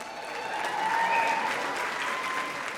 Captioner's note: applause